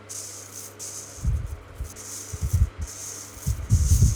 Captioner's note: fan blowing